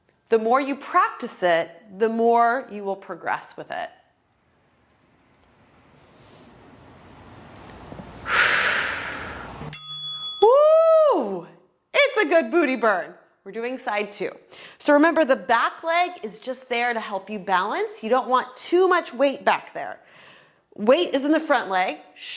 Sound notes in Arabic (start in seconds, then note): 4.7 زفير; 4.7 قرع الجرس